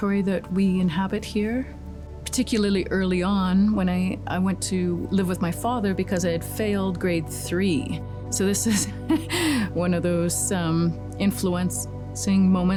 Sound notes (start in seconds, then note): 8.7 laughs